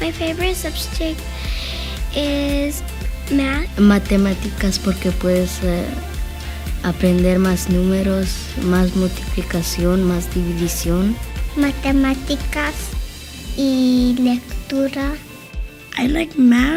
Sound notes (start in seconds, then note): 3.9 speaking Spanish